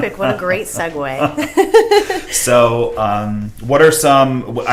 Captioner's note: laughs